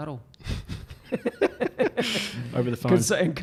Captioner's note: laughter